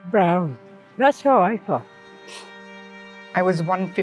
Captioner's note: sniffs